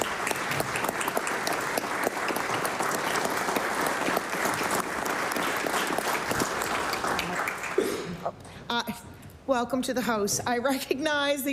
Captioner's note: applause